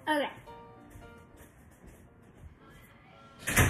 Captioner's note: more Awkward Silence